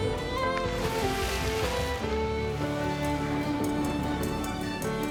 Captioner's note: water splashing